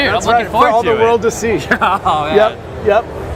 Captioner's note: laughs